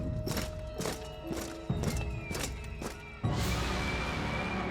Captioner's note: marching